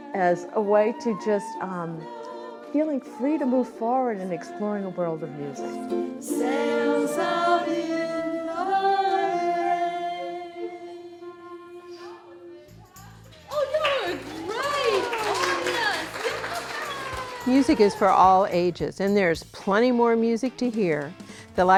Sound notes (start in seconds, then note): 13.4 audience applauding; 16.0 audience cheering